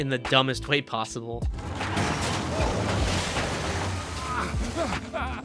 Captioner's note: motorcycle scratching sounds